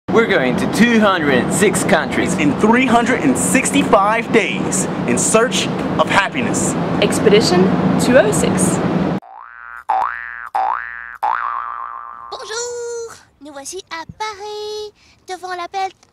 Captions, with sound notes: - We're going to 206 countries... - In 365 days in search of happiness. - Expedition 206. - [speaking French]